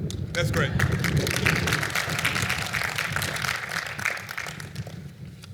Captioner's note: applause